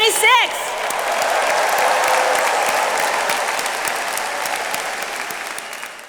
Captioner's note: attendees cheering and applauding